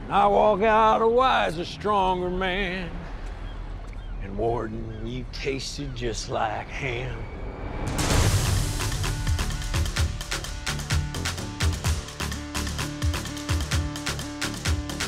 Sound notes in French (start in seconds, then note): none